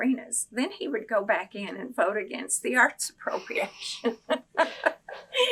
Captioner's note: laughs